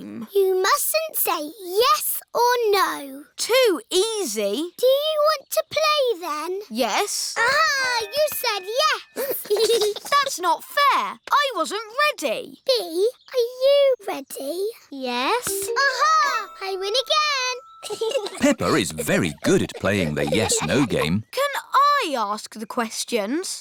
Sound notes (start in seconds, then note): 9.2 giggles; 17.8 chuckles